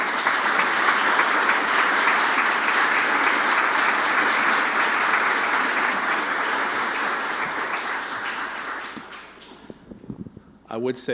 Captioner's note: applause